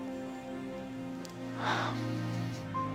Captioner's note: gasping